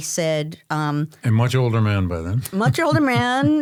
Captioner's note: chuckles